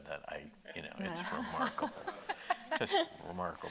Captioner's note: laughing